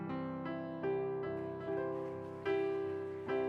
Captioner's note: applause